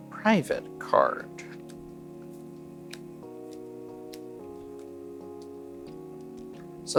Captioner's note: cards slapping table